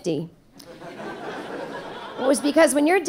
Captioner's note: audience laughing